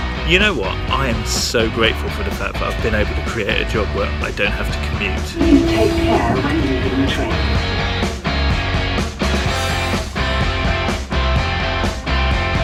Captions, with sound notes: You know what, I am so grateful for the fact that I've been able to create a job where I don't have to commute. - [Computer voice] Take care when leaving the train. (guitar music)